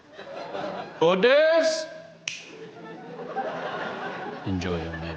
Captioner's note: snaps fingers